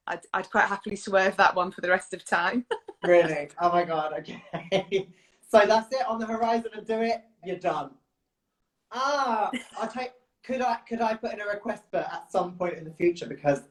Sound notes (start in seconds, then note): 2.6 laughs; 5.8 laughs; 9.4 chuckles